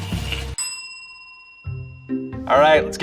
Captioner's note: bell dings